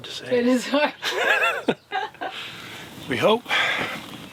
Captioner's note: laughing